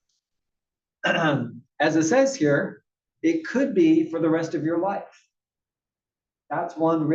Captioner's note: cough